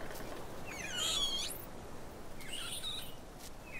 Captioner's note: crying